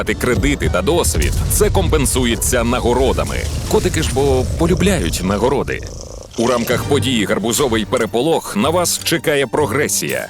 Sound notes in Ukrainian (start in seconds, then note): 4.6 вдоволене мурчання